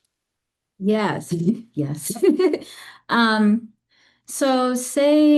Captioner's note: laughs